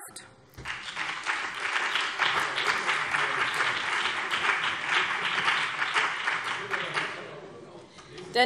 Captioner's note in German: Beifall BÜNDNIS 90/DIE GRÜNEN